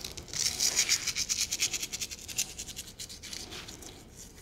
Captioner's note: salt sprinkling